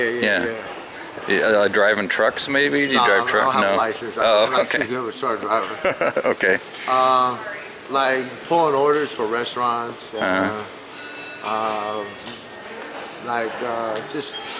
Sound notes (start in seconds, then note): 5.6 both laughing; 5.7 interviewer, laughing